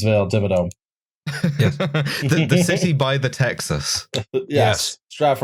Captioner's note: laughter